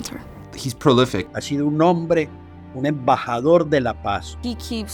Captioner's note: speaks Spanish